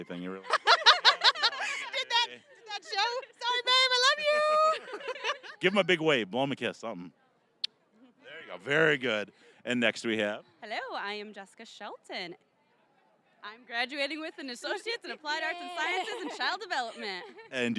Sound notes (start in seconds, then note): 0.6 laughing; 4.6 all laughing; 7.5 kissing sound